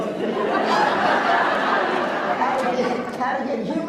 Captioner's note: laughs